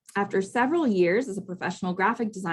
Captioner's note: none